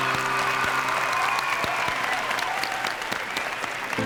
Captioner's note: song ends; applause and cheering